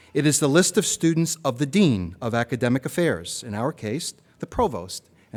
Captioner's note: none